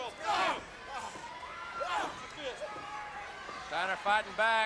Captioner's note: wrestlers grunting